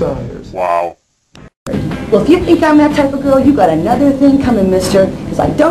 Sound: snappy

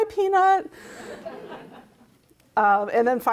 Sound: crowd laughs

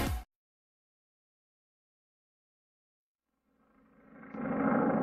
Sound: silence; biplane propeller noises

